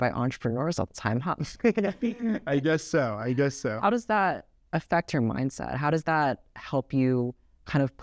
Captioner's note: laughs